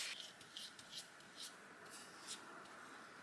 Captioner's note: more brush strokes